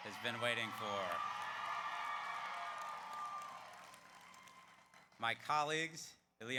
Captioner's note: audience cheers; audience applauds